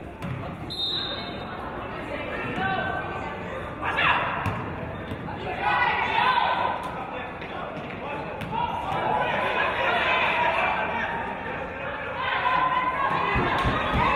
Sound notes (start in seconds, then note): 0.6 referee's whistle; 5.3 audience and players yelling